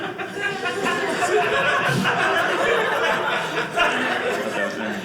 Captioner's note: audience laughing